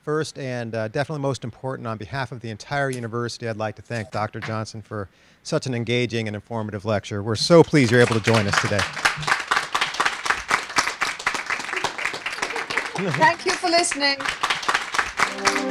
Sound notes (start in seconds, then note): 7.6 applause